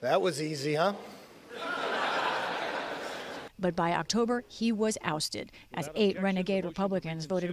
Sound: voice-over

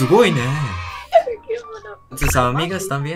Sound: Spanish

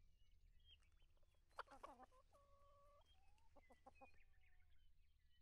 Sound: chickens clucking

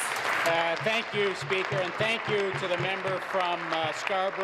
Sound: applause

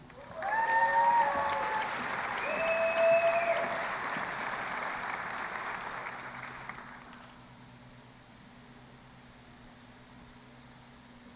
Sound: cheering and Applause

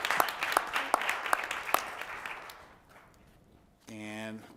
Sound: applause

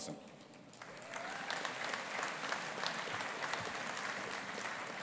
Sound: audience applauding

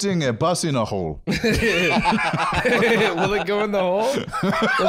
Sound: laughing

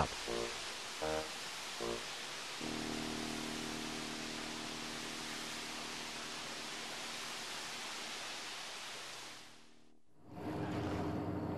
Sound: water running

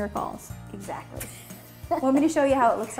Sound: woman laughs

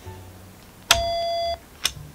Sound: beep

